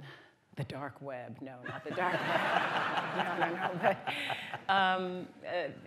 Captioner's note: laughter